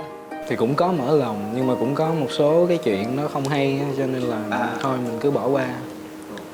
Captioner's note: huu